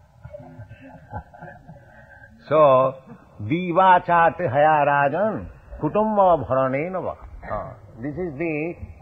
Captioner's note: laughter